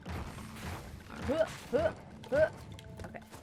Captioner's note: mimics the bouncing noises